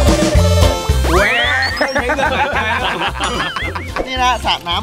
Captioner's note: laughs maniacally